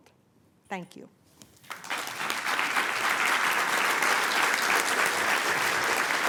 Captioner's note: applause